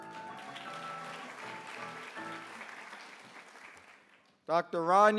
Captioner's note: applause